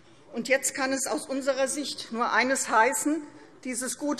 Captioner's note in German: none